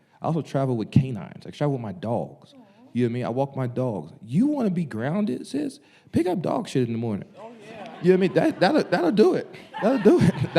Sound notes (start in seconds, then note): 7.4 audience laughing